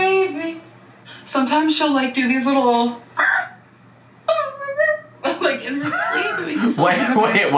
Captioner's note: dog sounds